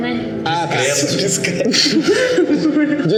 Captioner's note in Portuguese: risadas